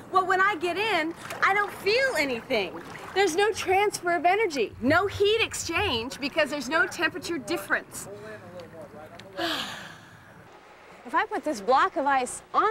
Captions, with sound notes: WELL, WHEN I GET IN, I DON'T FEEL ANYING. THERE'S NO TRANSFER OF ENERGY, NO HEAT EXCHANGE BECAUSE THERE'S NO TEMPERATURE DIFFERENCE. ( sighs ) IF I PUT THIS BLOCK OF ICE ON THE ICE